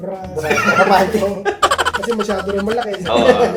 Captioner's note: laughing